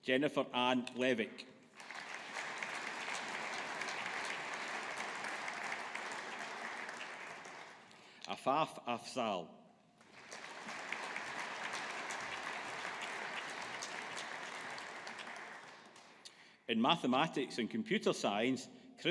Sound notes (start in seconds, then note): 1.7 audience applauding; 10.0 audience applauding